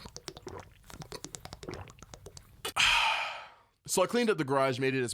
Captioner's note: gulp gulp gulp..ahhhh